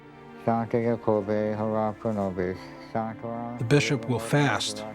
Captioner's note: praying in latin